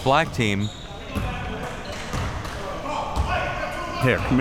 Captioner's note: audience chattering and yelling